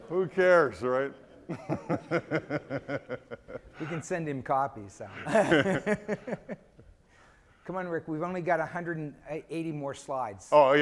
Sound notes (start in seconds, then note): 1.1 laughing